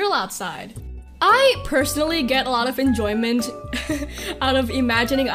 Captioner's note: laughs